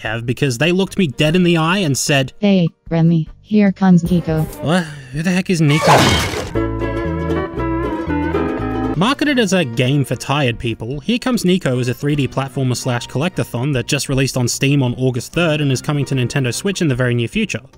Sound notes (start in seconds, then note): 5.8 sounds of Niko arriving